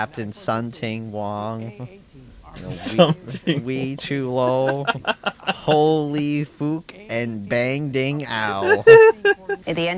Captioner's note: laughs